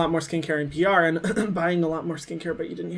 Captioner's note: clearing throat